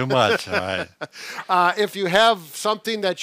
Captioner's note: chuckling